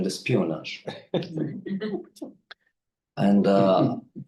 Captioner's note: audience member laughing